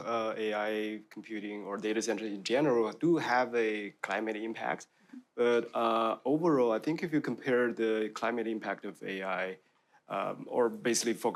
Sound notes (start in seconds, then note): none